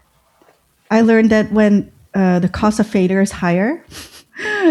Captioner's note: uh; laughter